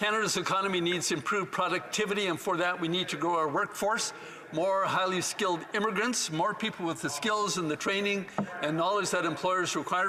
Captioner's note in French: voix de l'interprète